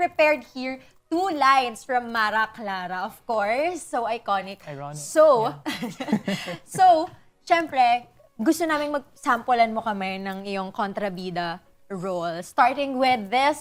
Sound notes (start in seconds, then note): 5.7 chuckles